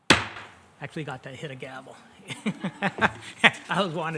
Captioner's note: laughs